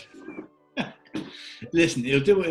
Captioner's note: chuckling